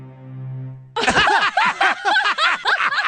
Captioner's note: laughter